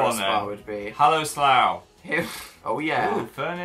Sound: laughs

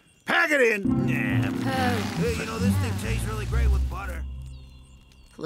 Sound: grumbling

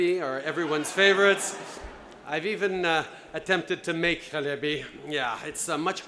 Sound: laughter

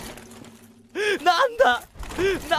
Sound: sobbing; sobs

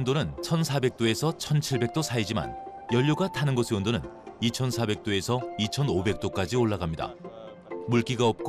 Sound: voiceover

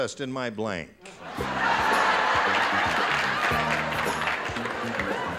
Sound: laughter

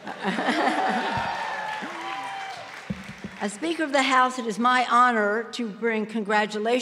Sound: applause

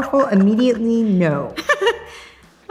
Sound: laughing

